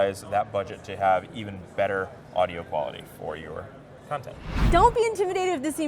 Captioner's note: whoosh